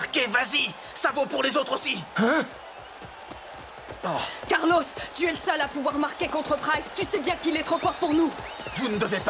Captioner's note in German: beifall